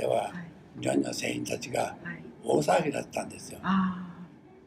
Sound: foreign language

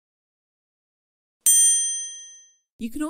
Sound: bell ringing

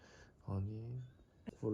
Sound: breathe

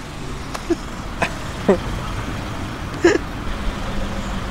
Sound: laughes

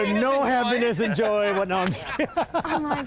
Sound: laughing

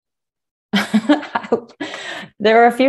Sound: chuckles

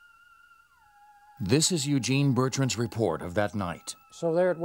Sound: voiceover

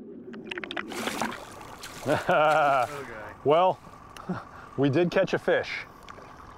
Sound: laughing

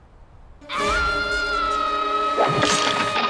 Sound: yell echoing throughout the land

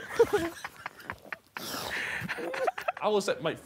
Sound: Sidemen laughing

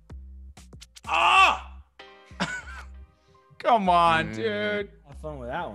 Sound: laugh

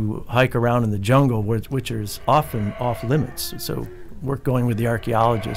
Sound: howler monkeys calling

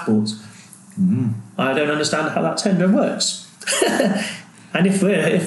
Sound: laughs

